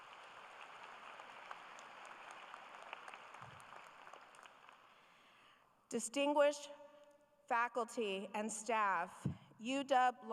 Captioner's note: applause